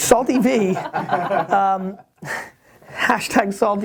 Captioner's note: laughs